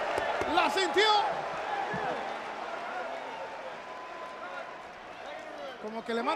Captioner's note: applause